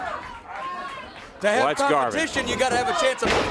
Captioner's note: crowd chatter